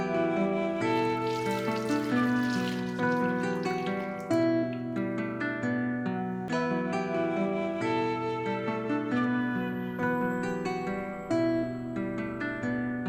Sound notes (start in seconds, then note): 0.8 water running